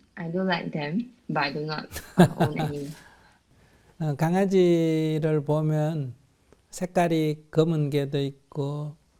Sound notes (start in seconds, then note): 1.9 laughs